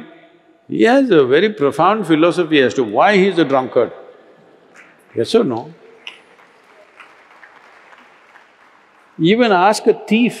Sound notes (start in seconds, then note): 7.9 applause